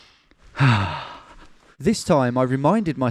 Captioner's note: sighing